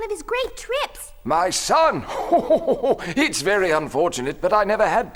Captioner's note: chuckles